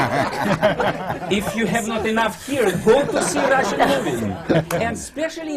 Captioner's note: laughter